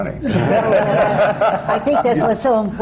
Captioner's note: laughter